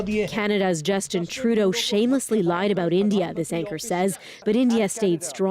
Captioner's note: speaking alternate language